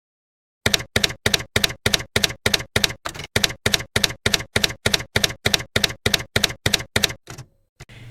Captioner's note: typewriter keys clacking